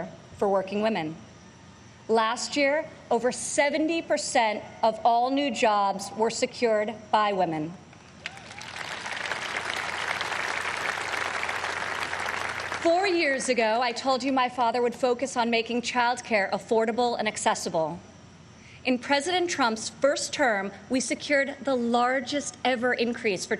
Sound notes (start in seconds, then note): 11.0 applause